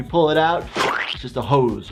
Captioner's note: blood squelching